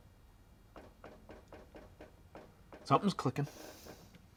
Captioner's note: object clicking